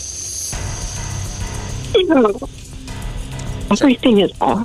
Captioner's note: laughing